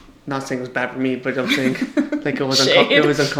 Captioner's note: laughs